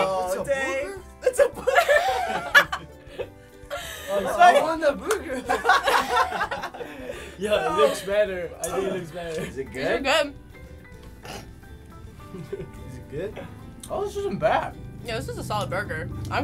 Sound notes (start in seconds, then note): 2.5 cracking up; 5.4 laughing; 11.1 snorting; 12.2 chuckling